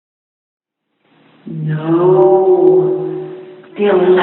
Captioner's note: divine voice, like an angel